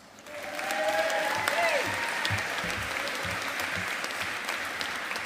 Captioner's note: audience applauding